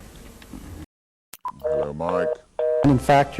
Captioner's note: hangup tone